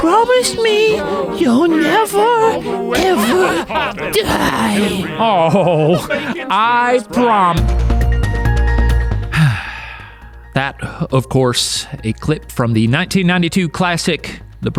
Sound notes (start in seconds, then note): 7.9 dramatic music; 9.3 Book sighs